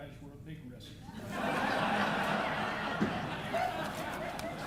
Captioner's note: audience laughing